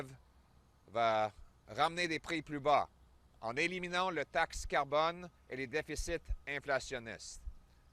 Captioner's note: French